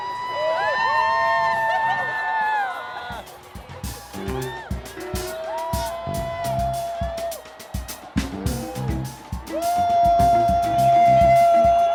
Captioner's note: applause